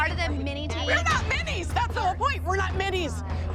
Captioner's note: yelling